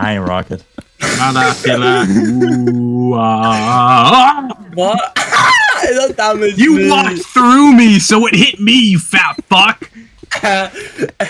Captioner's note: silent Giggles